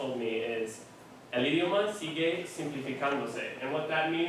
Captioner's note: speaking spanish